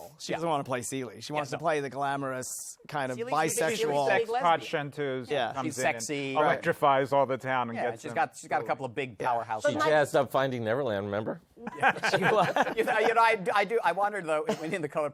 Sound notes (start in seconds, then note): 11.6 laughter